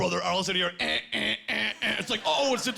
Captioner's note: imitating buzzing